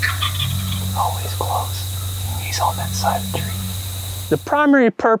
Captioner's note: whispering